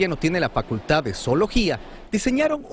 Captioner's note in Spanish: habla en ingés